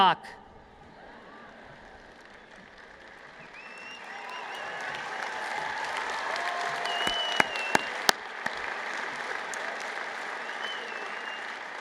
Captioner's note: cheers and Applause